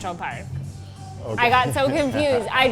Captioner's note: laughing